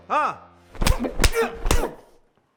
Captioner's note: loud punch